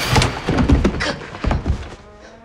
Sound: quick Footsteps; door Creaking

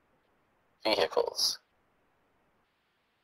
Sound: voiceover

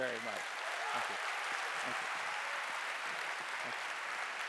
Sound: audience applauds

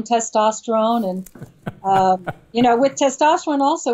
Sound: Steven laughs

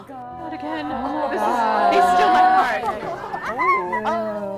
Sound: crowd chatter; gasps

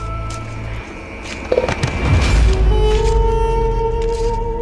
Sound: thud

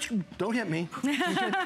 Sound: laughter

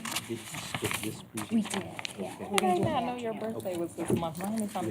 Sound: indistinct chatter

